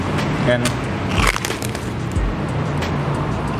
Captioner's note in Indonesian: Suara renyah